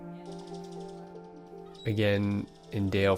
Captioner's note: bird chipping